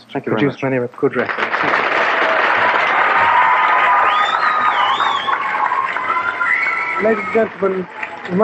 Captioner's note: cheers and applause